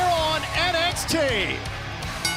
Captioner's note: bell ringing